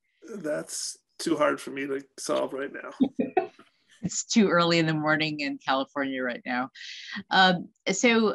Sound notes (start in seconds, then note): 1.2 laughs